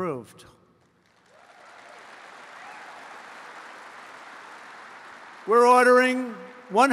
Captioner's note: applause